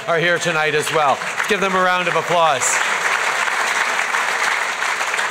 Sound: applause

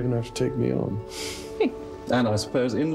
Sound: Diana chuckling

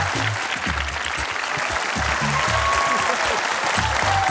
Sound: applause

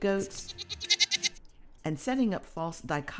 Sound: goat bleats

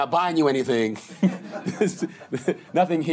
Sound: laughter

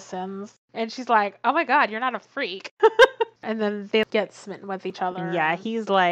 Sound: laughs

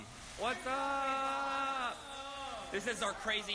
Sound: actors shouting

